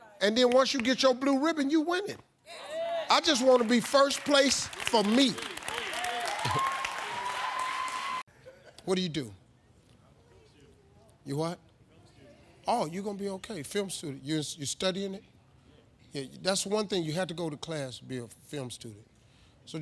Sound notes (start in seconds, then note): 5.4 laughing; 6.0 audience applauding; 6.0 audience cheering